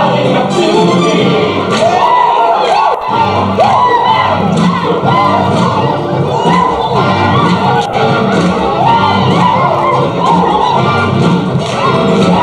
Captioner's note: whooping and cheering